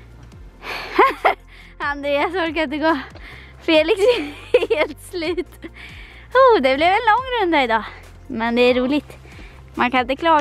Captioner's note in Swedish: laughing